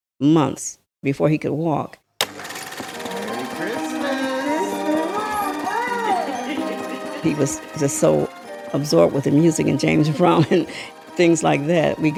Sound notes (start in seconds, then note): 4.0 voice From old Recording